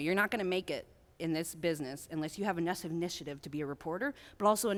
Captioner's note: none